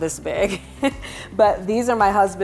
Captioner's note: laughs